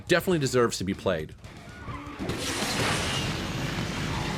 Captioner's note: engine roaring